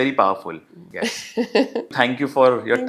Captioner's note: laugh